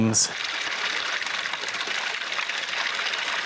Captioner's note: water running